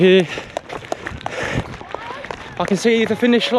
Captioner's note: crowd applauding